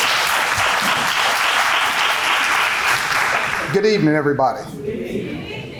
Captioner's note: applause